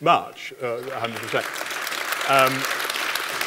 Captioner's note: applause